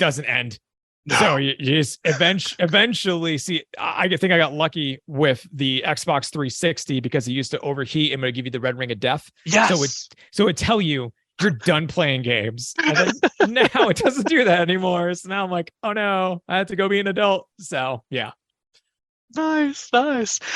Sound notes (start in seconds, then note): 12.8 laughter